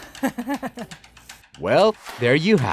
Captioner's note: chuckling